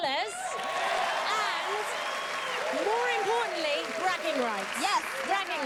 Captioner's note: cheers and applause